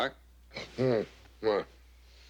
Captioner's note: on phone